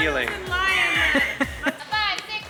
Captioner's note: chuckling